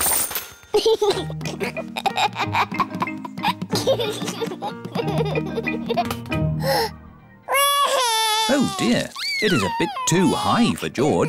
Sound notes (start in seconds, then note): 0.8 giggles; 7.5 cries